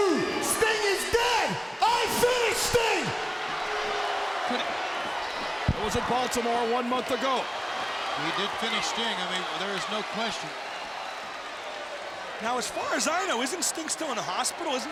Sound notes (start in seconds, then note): 3.7 crowd booing